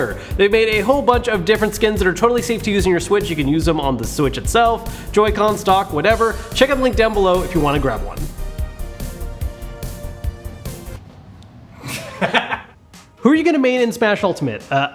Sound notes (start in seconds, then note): 9.0 jazzy pop music; 11.8 laughs